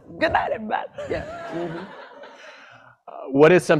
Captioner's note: laughter